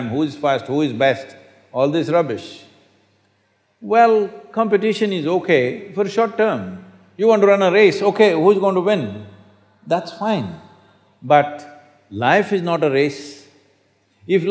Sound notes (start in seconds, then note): none